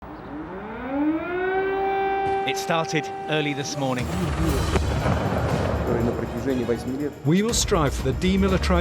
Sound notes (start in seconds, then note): 0.0 sirens blaring; 4.0 explosions booming; 5.5 Putin speaking in Russian